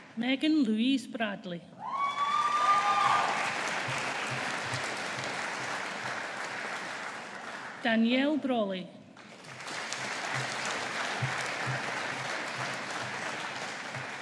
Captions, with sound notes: Megan Louise Bradley. (AUDIENCE APPLAUDING) Danielle Brolly. (AUDIENCE APPLAUDING)